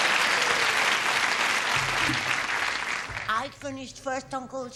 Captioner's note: applause